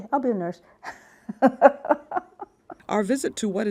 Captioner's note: laughs